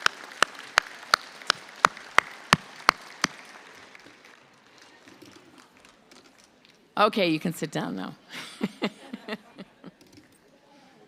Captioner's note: applause